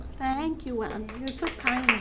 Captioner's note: applause